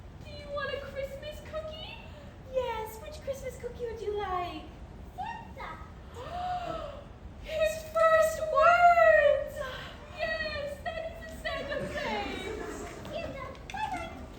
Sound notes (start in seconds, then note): 9.6 gasp